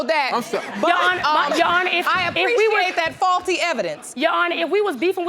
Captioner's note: audience laughing